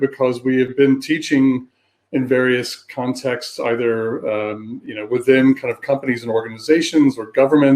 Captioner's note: erm